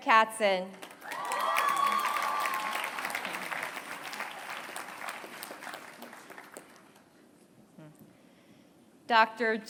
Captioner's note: applause